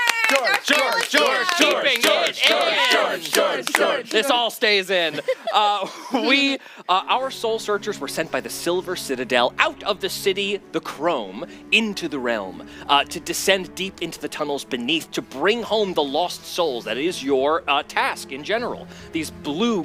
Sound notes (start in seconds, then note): 3.2 George chant